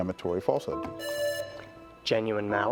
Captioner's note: presses buzzer